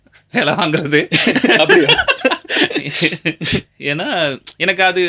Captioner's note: laughs